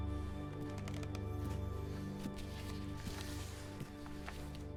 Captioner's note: floor creaking